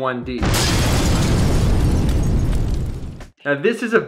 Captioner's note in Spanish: Explosión, vidrio rotura